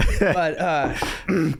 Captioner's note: laughing